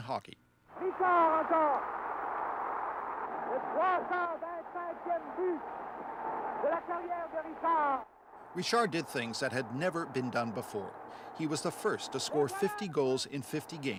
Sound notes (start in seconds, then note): 3.8 announcer speaking in French